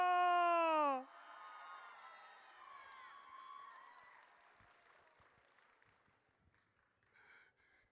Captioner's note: audience cheers